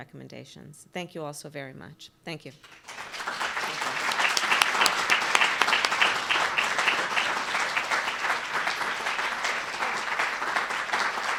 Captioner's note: applause